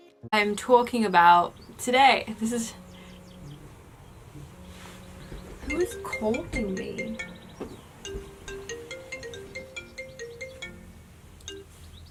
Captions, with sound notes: I'm talking about... Today! This is jus... (*Buzzing*) Who is calling me? (*Ringtone continues*)